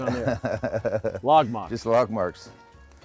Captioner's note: Todd laughs